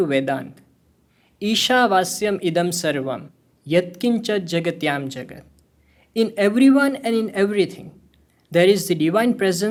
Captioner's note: speaking hindi